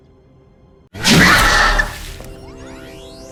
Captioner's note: zap